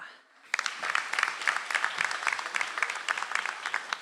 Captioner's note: audience applauds